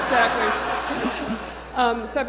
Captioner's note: laughter